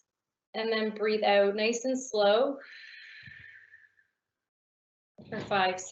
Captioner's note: exhaling